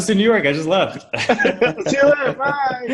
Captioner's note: laughs